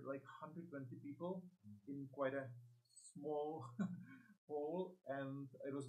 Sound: laughs

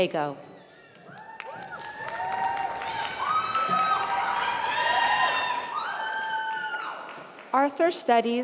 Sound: applause

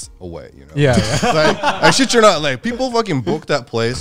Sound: all laughing

